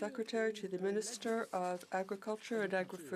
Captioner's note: speaking french